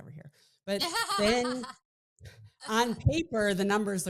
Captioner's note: laughing